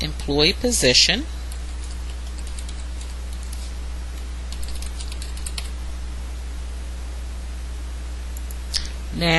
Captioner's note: typing